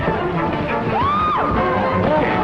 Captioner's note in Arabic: صراخ; صرخة